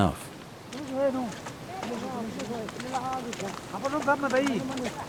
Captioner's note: speaking foreign language